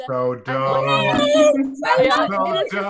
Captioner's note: murmurs